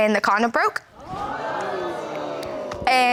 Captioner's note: audience gasps